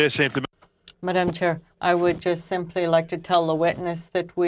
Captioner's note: speaking French